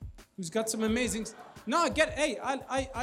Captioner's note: audience laughs